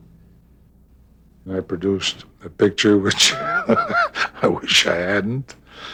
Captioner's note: laughing